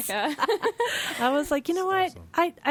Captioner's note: laughing